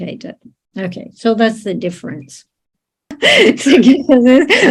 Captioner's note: laughs